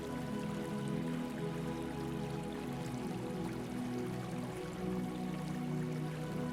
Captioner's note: water trickling